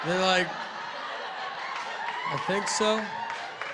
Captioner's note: laughter and applause